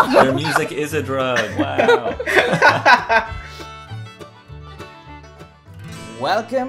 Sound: laughter

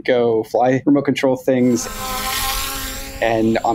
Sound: whirring

